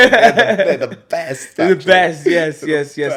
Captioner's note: laughs